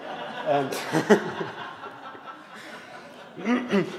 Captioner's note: audience laughs